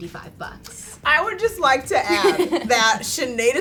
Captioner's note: laughs